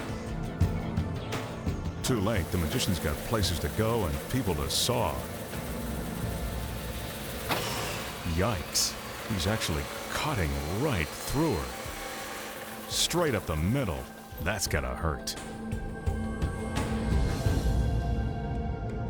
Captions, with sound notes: Too late, the magician's got places to go and people to saw. (saw buzzing) Yikes. He's actually cutting right through her, straight up the middle. That's gotta hurt. (tense rhythmic music)